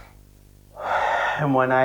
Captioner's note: exhale; inhale